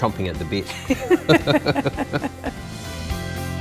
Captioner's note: crackling laughter